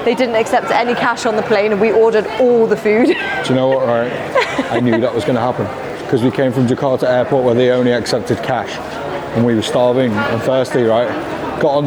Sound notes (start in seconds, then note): 2.8 laughs